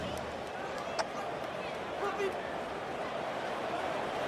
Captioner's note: crowd cheering